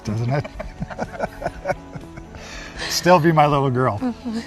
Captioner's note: both laughing